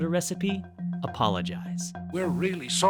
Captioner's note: soundbite of archived recording